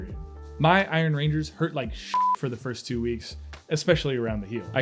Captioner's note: beep